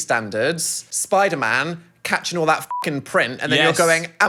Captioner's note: beep